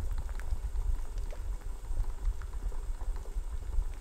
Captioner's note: bubble bubble